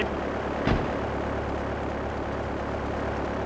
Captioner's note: plane engine roaring